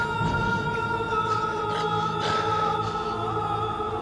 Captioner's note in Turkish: Nefes sesi